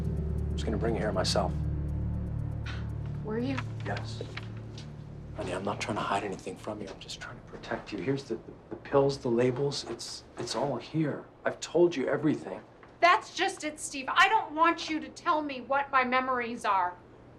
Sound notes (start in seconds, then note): 2.4 scoffs